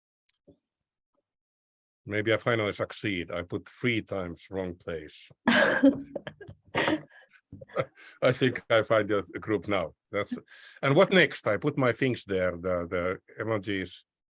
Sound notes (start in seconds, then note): 5.4 laughing; 7.6 chuckles